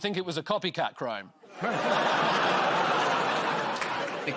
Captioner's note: audience groans